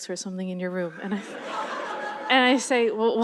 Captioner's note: laughter